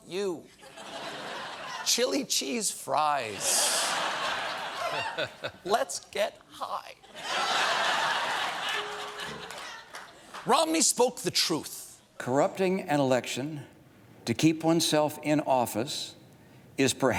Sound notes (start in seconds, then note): 3.4 laughter; 7.0 laughter